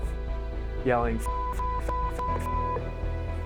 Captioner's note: beep